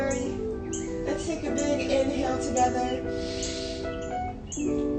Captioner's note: inhales